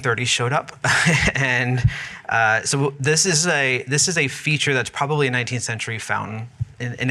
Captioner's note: laughs